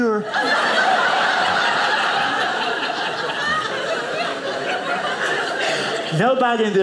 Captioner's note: audience laughing